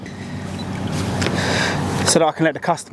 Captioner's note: camera bleeps